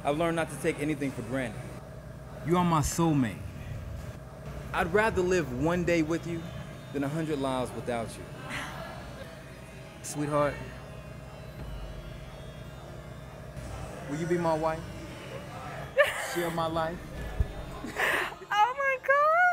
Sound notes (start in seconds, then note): 15.9 laughs